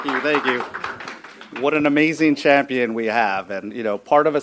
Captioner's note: applause